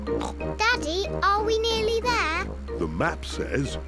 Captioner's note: snorts